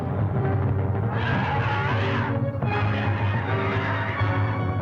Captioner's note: cubs growling